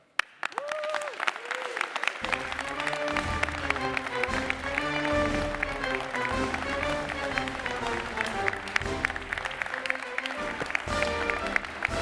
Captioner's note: applause